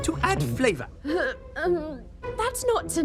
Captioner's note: groans in disgust